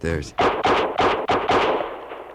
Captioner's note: gunshots